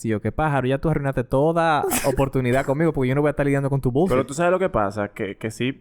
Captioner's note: laughs